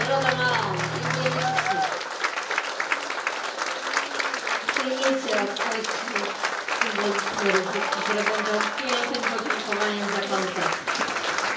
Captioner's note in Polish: oklaski